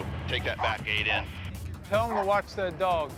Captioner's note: dog barking